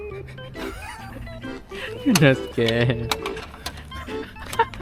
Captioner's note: laugh